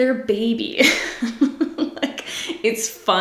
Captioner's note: laughs